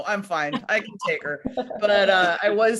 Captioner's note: others laughing